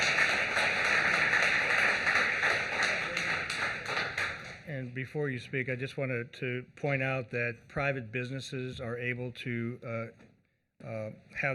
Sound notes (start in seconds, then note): 5.5 applause